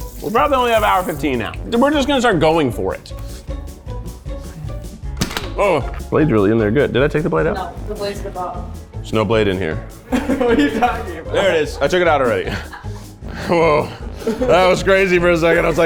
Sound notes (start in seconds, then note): 3.3 quirky music continues; 10.1 laughing